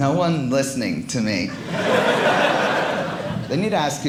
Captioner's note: audience laughing